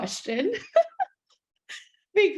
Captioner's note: person laughing